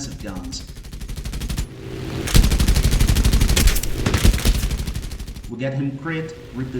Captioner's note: aircraft Engines ,Gunfire, Flying Sounds